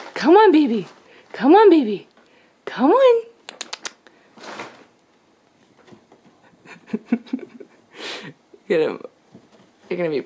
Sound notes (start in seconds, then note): 3.4 clicks tongue; 6.4 laughs